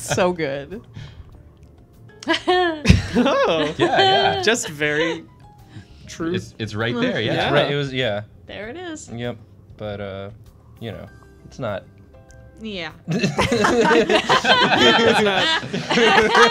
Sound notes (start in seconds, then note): 13.1 laughter